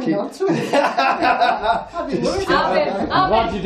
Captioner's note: laughing